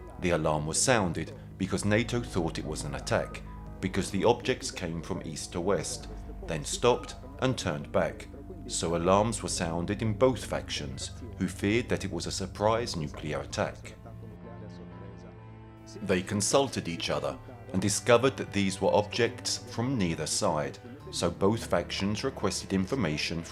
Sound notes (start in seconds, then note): 14.1 dramatic music continues; 14.1 speaking in foreign language